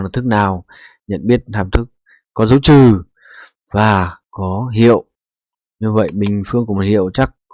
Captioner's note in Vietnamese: khịt mũi